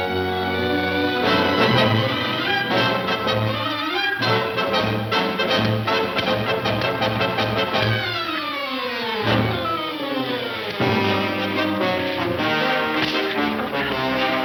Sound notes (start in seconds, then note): 0.2 intense instrumental music; 4.7 dull thudding